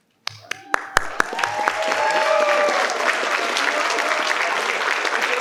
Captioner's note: participants applaud